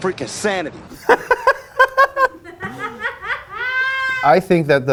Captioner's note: laughs loudly